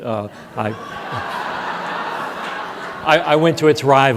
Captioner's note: audience laughs